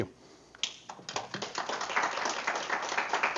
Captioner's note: audience applause